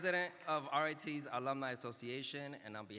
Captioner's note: speaking non-English